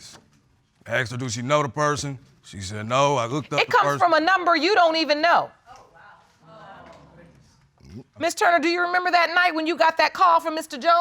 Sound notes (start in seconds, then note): 5.2 audience exclaiming